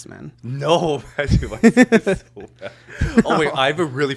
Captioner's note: both laughing